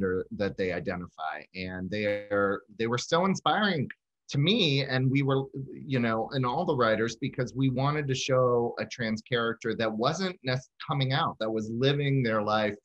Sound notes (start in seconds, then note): none